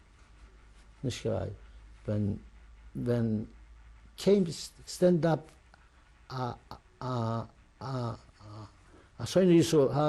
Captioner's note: non-english